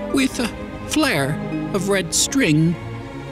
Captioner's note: none